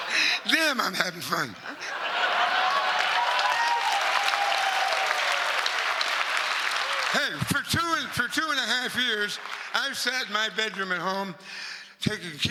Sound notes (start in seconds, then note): 1.6 laugh